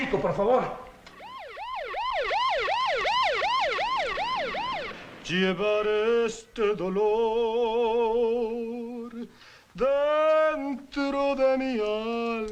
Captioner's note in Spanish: Sirena suena